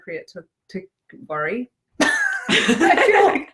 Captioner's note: both laugh